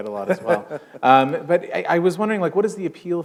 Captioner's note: chuckle